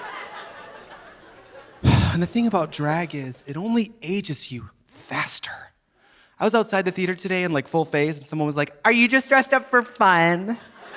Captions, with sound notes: (sighs) And the thing about drag is it only ages you faster. I was outside the theater today in full face and someone was like, "Are you just dressed up for fun?"